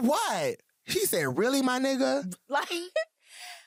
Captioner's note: laughter